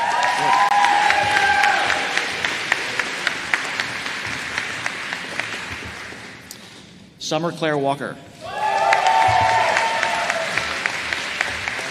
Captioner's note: applause